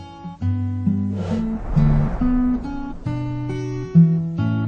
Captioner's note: blowing